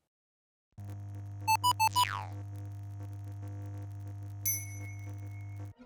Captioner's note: video game sounds